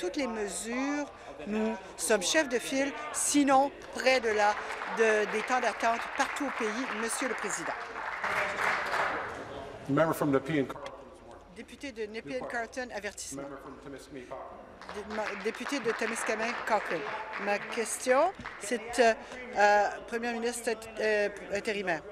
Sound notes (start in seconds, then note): 7.7 applause; 17.8 applause